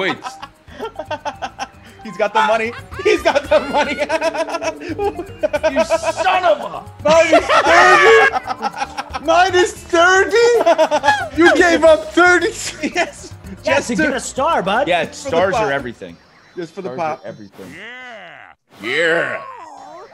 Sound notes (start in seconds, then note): 0.0 laugh; 7.1 laugh